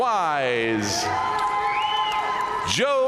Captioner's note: audience cheering and applauding